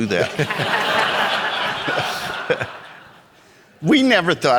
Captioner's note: audience laughing